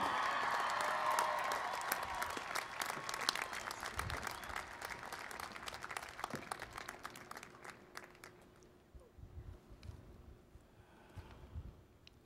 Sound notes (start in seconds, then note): 0.0 cheering and Applause